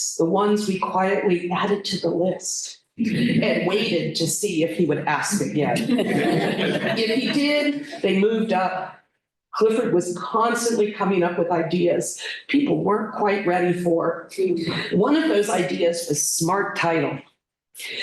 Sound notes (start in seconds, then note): 5.7 laughter